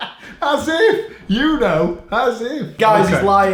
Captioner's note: laughing